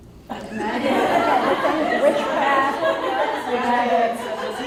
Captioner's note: audience laughs